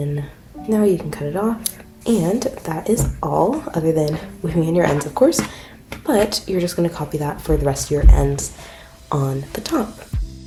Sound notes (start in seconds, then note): 1.6 scissor cut sound